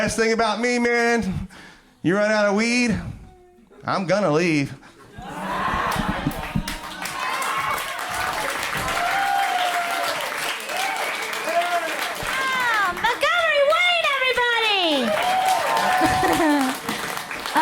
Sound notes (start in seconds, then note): 5.0 crowd laughs; 6.3 applause